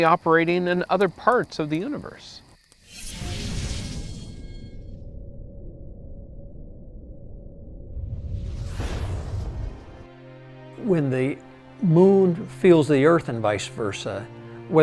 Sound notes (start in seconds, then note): 4.6 digital rumbling